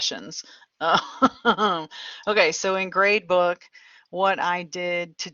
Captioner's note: laughter